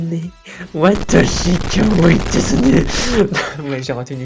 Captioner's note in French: pfft